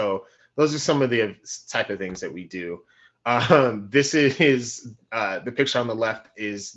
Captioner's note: laughing